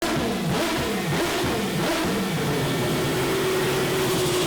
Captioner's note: motor revving